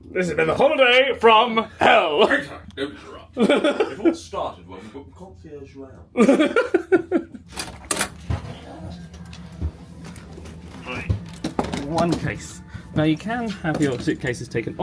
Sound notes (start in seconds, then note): 3.3 laughs; 6.1 laughs; 7.5 door opens